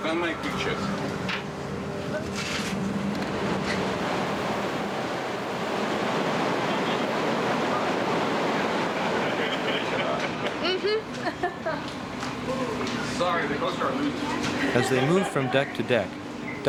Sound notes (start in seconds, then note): 0.1 russian officer speaking in Russian; 7.1 engine noise over officers speaking